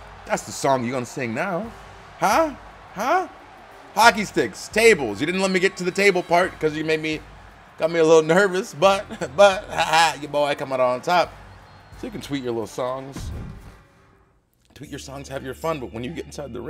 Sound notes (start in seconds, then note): 9.0 laugh